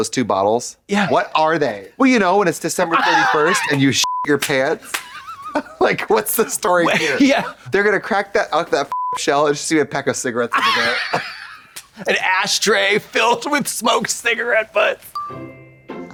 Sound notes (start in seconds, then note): 4.0 beep; 4.4 Katya wheezes and slaps; 8.9 beep